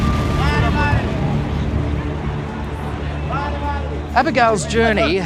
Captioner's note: people chattering